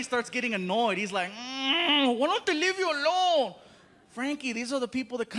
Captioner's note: groaning